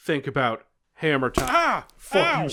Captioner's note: bonk